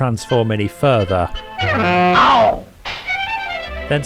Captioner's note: honks